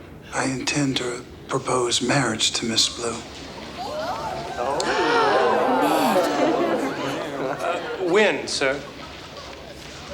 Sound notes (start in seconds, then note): 3.5 townsfolk gasp; 3.7 gasps